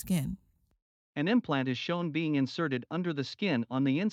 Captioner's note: voiceover